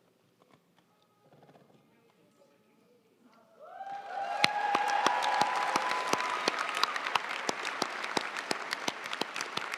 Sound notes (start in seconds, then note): 3.7 audience cheering and applauding